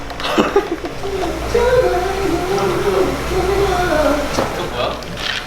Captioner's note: pouring; bumps